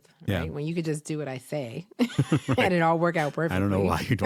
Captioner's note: laughter